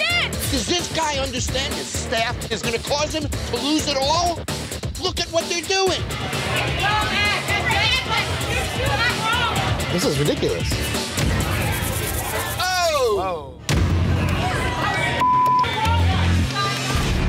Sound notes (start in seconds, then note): 12.6 men exclaiming; 15.2 beep